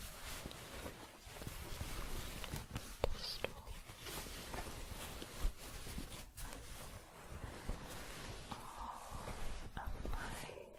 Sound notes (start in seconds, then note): 0.4 shuffling; 4.1 shuffling